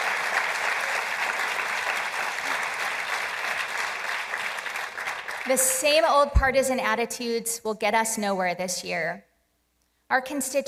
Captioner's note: applause